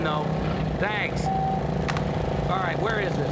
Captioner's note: phone beeps